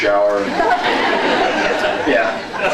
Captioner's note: laughs; scattered laughs